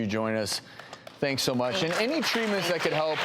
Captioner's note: applause